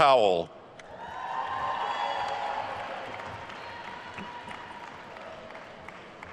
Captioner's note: attendees cheering and applauding